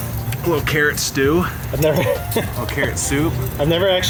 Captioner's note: laughing